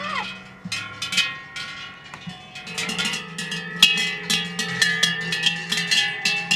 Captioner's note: cattle bells and yelling herders